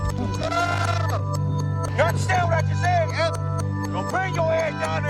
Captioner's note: yelling